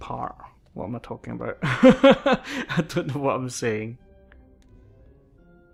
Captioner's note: laughs